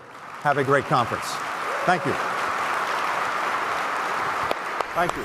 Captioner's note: applause